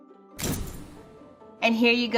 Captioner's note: pounding